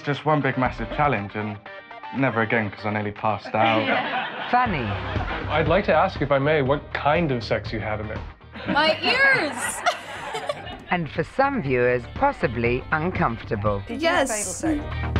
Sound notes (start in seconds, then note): 8.6 laughs